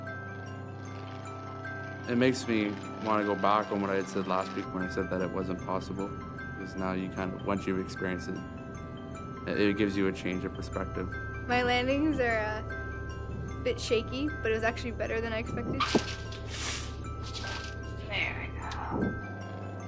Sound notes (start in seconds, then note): 0.2 airplane rumbles; 15.7 rattling thump; 18.0 sharp inhale